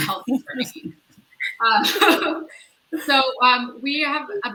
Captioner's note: all laugh